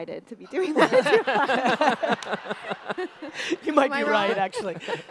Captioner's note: audience laughter